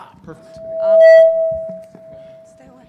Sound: speaker feedback

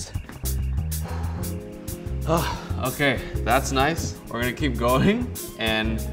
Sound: exhales

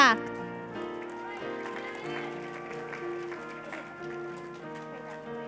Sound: cheers and applause

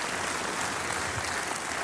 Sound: applause

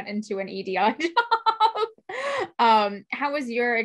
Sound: laughs

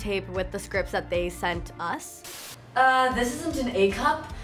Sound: static sound

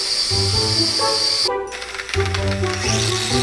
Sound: mechanical Whirring

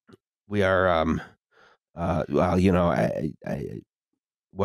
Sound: stammers

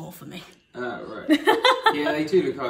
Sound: laughing

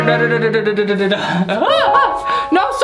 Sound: laughs

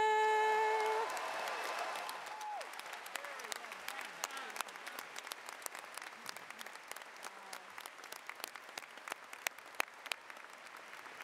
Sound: cheers and Applause

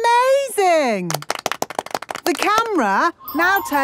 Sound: applause

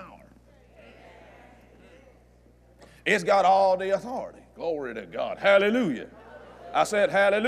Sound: audience Agrees

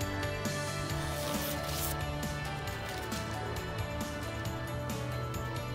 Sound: wrapping paper ripping

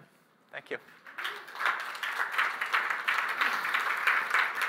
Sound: applause

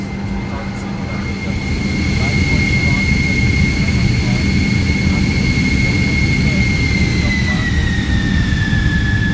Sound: jet engines accelerating

